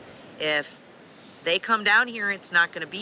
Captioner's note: none